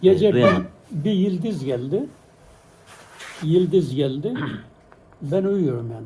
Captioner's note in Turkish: boğazını temizler